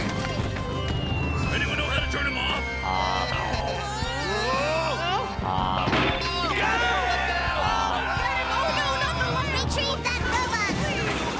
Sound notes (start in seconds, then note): 3.2 yelling